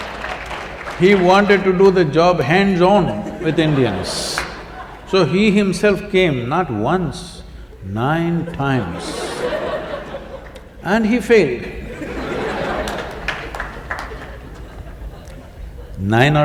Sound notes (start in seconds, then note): 0.0 laughter; 8.4 laughter